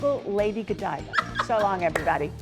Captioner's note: laughter